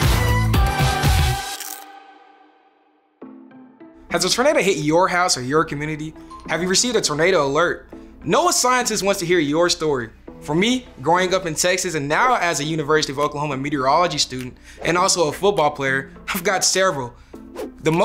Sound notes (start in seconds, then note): 0.0 upbeat Music; 1.4 crunch sound